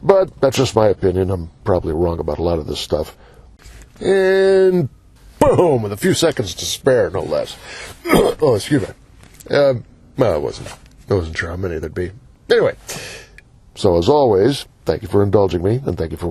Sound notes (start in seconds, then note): 8.0 cough